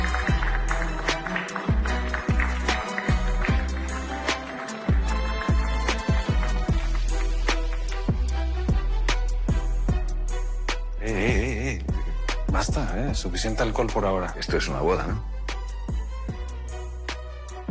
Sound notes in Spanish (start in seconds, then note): 0.1 Aplausos; 8.0 Aplausos